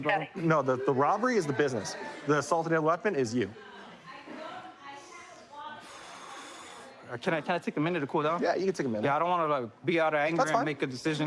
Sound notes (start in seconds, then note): 5.7 exhales